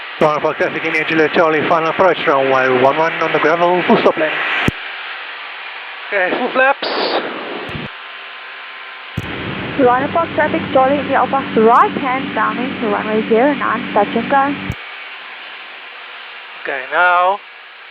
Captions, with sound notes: Rhino Park traffic, India Juliet Charlie, final approach, runway one-one on the gravel, full stop landing Okay full flaps [radio] Rhino Park traffic. Charlie India Alpha, right-hand downwind runway zero-nine nice touch and go Okay now...